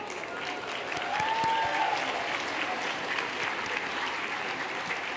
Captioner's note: applause